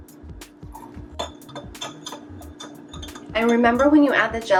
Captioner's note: fork hitting glass